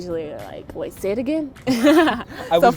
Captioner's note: laughs